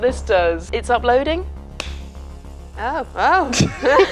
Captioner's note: clap; laughs